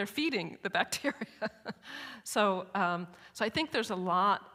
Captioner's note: chuckles